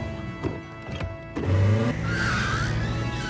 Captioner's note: engine revvs, tires screech